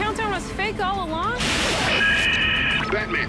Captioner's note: radio static